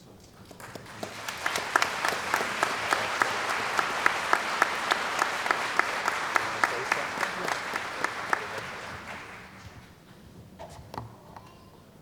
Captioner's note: applause